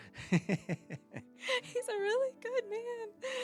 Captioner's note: laughs